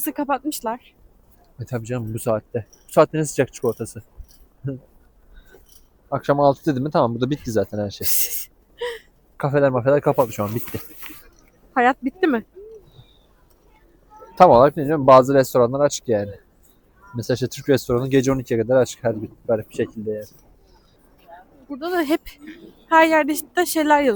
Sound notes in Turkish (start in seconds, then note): 10.5 kahkaha